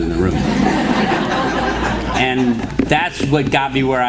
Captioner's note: laughter